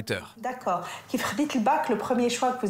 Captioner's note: in Arabic